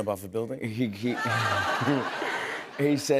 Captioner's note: laughter